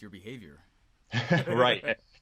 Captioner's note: laughing